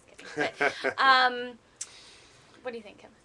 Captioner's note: laughter